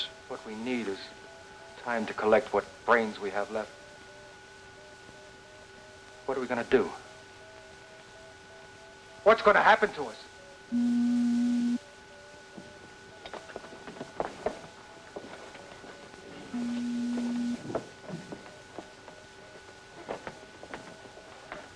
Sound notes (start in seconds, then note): 10.7 door beeps